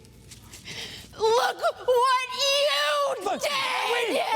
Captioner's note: crying and shouting